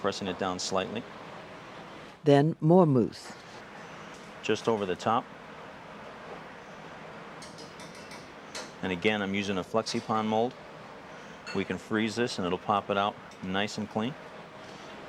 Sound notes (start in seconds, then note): 2.5 voiceover